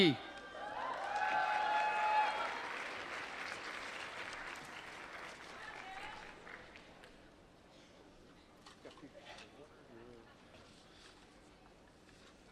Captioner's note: applause